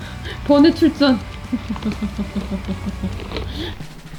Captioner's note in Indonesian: tertawa